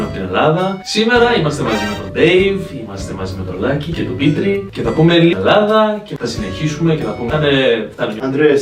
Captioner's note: Falando algo em grego